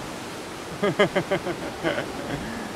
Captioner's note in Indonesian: tertawa